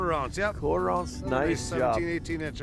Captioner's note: voiceover